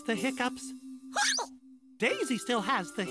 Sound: hiccups

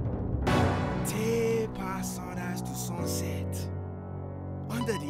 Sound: speaking in foreign language

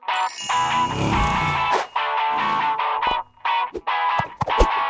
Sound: car engine

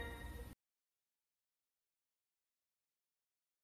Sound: silence

